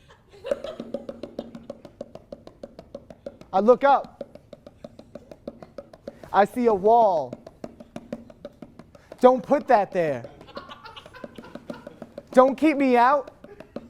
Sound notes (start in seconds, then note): 10.3 genuine audience laughter